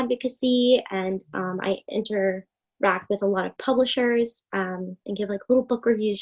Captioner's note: speaking faintly